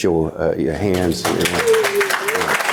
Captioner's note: audience applauding